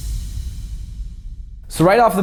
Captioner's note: electronic boom